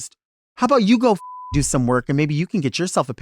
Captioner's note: beep